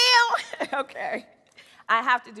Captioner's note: chuckles